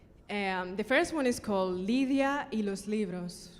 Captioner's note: speaking in foreign language